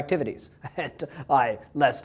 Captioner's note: laugh